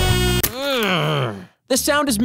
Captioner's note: groan